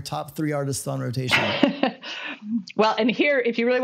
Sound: laughs

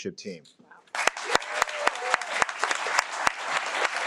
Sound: audience clapping

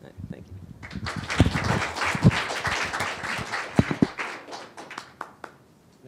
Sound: applause

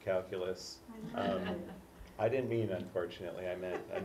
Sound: laugh

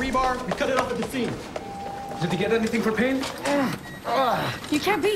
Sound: man grunting

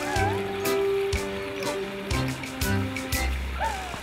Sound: both laughing

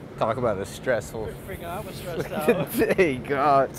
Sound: men laughing

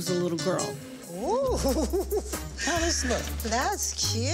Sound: chuckles

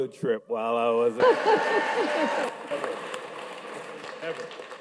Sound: audience laughs

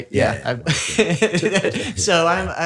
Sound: both laughing

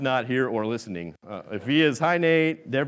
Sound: laughing

